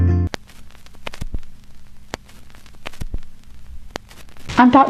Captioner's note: static